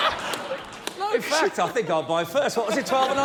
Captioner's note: laughter